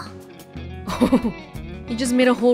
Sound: chuckles

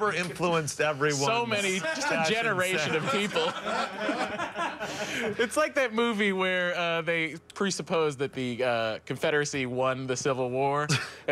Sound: laughter

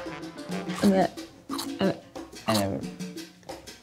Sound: chomps

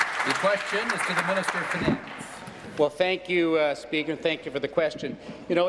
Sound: applause

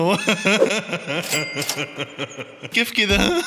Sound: laughter

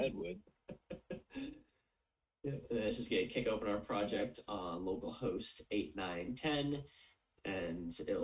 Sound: chuckles

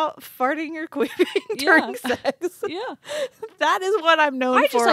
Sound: laughs

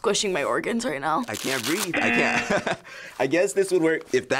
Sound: laughing

